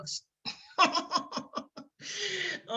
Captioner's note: laughs